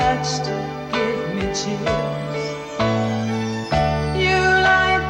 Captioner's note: chimes chiming